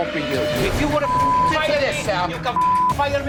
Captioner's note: beep